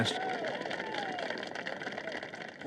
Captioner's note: applause